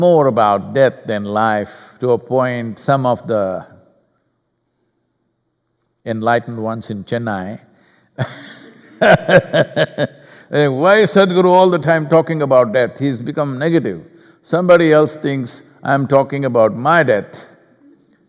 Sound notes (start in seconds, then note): 8.2 laughs